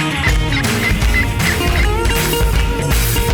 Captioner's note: upbeat music; duck sound; upbeat music